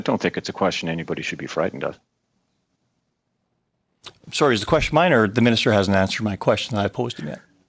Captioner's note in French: voix de l'interprète